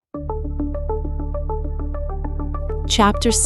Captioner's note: W sounds like V, D sounds like T